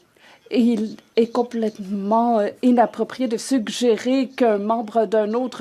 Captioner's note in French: voix de l'interprète